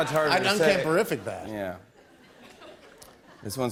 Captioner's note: laughter